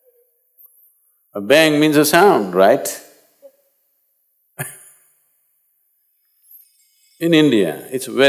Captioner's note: laughs